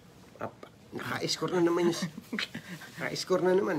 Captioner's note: laugh